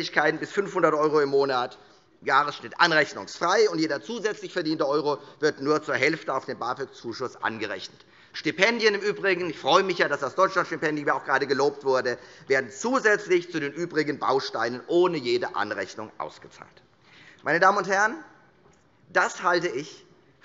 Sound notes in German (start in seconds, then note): none